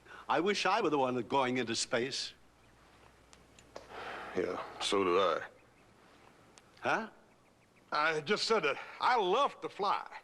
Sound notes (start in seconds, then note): 3.8 sighs